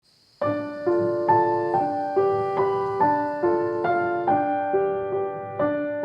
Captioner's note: birds chirping